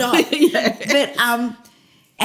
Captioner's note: laughter